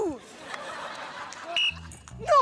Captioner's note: blows whistle